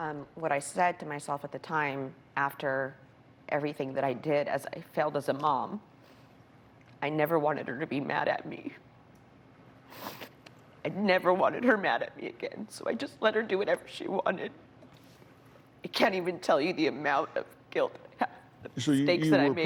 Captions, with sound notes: WHAT I SAID TO MYSELF AT THE TIME AFTER EVERYTHING THAT I DID IS, "I FAILED AS A MOM." I NEVER WANTED HER TO BE MAD AT ME. [ SNIFFLES ] I NEVER WANTED HER MAD AT ME AGAIN, SO I JUST LET HER DO WHATEVER SHE WANTED. I CAN'T EVEN TELL YOU THE AMOUNT OF GUILT I HAVE, THE MISTAKES THAT I MADE.